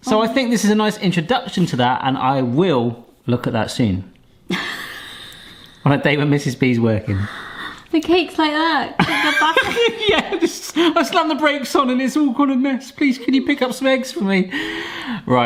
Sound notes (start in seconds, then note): 4.5 laughing; 9.0 both laughing